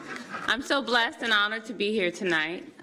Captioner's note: laughter